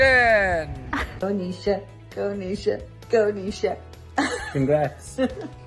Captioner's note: laughs